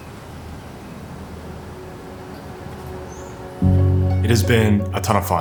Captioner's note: nature background; music swells